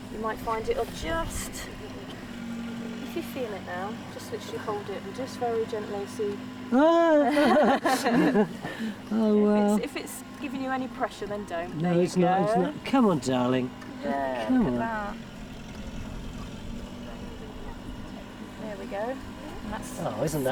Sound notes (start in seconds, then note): 6.8 pair laughing